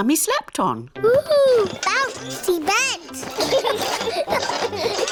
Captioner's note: children laugh